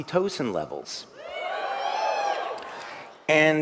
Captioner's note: เสียงปรบมือ